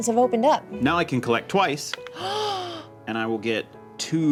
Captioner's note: gasps